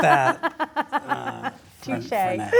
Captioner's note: laughs